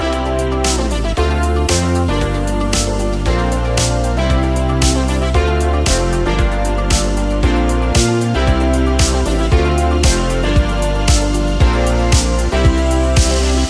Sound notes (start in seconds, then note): 1.5 nervous